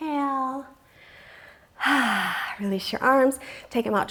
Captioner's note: deeply inhales